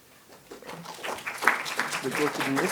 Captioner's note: applause